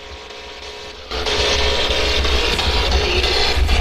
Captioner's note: static buzzing